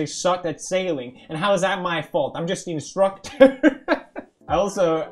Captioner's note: laughing